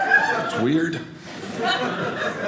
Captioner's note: audience laughing